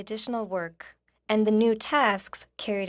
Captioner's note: speaking FRENCH